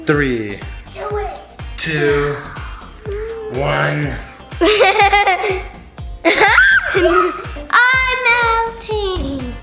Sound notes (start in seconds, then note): 6.2 laughs; 6.6 screams